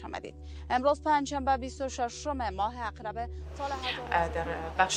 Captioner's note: news anchor fades out